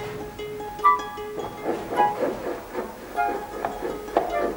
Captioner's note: sawing